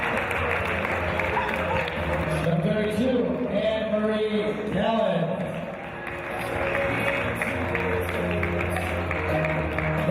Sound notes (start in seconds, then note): 5.2 applause